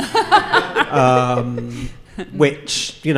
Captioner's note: audience laughing